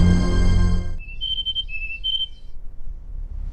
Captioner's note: classic Bird twittering